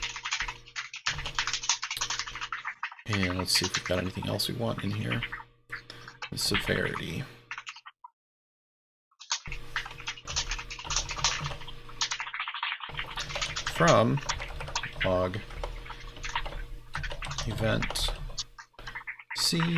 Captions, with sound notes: (keyboard keys clanking) Let's see if you've got anything else that you want in here. This is a severity. (keyboard keys clanking) From log events C there.